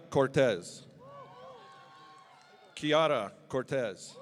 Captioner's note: audience cheering